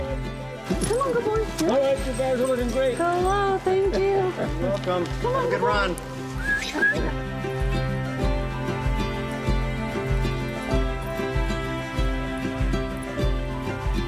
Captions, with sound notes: C'mon, good boy. All right, you guys are looking great! Hello, thank you. You're welcome. Have a good run! Come on, good boy! [whistles] [soft music]